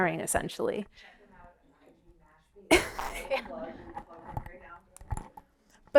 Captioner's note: background talk